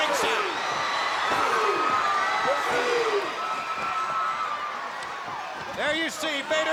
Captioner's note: crowd cheering; wrestlers grunting